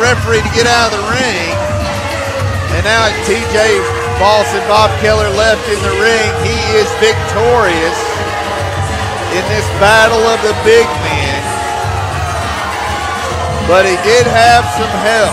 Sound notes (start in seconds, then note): 6.5 crowd booing